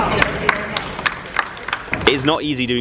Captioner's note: applause